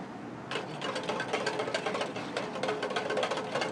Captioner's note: whisking